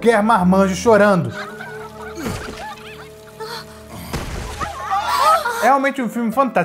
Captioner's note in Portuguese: galinhas cacarejando